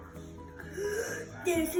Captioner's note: gasps